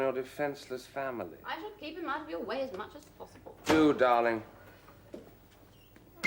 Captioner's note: door opens